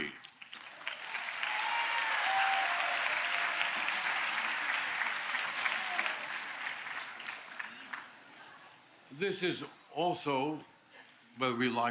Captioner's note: applause